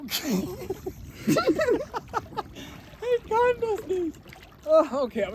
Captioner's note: laughter